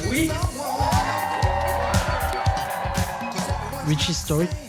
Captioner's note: cheers and applause